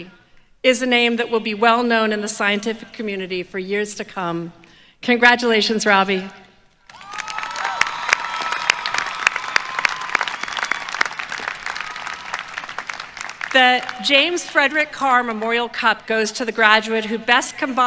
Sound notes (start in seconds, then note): 9.8 applause